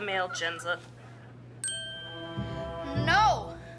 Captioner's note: dings